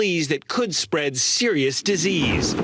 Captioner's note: speaking spanish